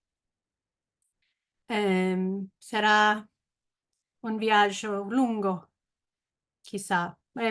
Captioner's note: she says the last word in Spanish